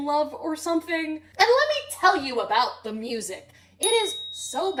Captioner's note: ding